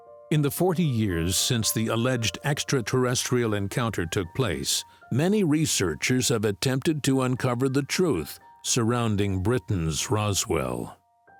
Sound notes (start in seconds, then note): none